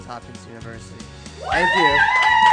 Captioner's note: applause